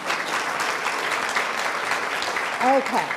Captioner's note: applauds